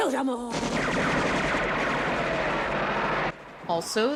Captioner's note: gunshots